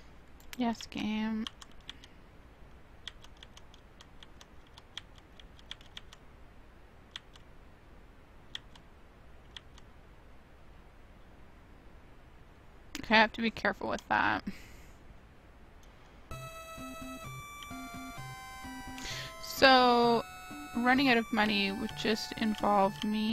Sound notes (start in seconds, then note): 3.0 keyboard clicking